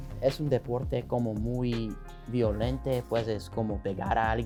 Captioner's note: speaking Spanish